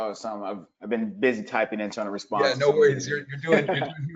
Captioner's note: laughs